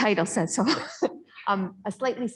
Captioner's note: laughter